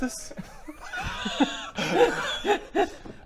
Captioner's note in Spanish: risas desconcertada